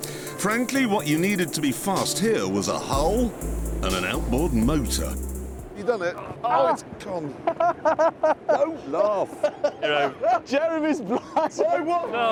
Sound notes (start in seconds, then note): 7.5 richard laughs